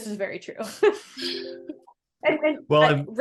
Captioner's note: laughing